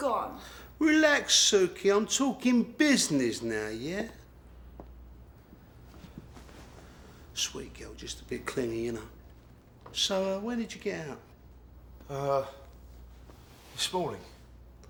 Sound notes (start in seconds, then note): none